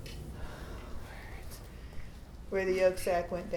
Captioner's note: whispers